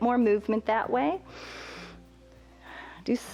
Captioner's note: inhales and exhales